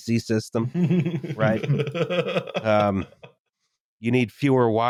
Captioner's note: laughter